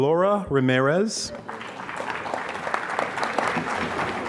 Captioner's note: applause